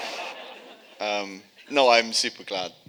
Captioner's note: audience laughing